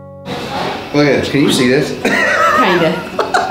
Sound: laughs

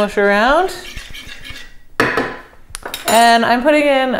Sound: stirring and clanking

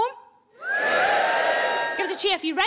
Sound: scattered cheering

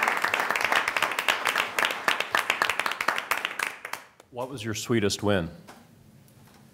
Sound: applause

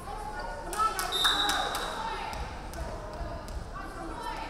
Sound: referee whistling

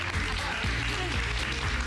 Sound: applause

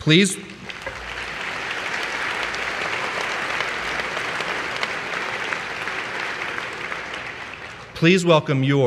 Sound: applause

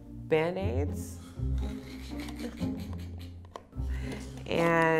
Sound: snickering

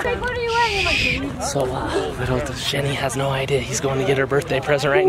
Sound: shushes

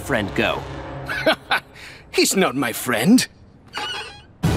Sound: laughing

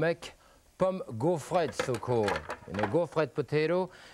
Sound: french language

